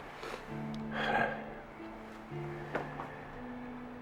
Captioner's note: sighs